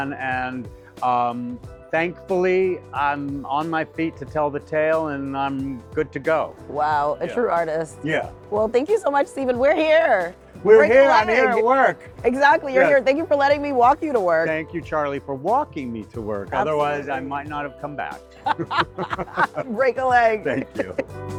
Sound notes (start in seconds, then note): 18.4 pair laughing; 21.1 hip hop music